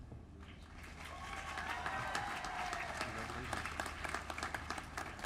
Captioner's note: applause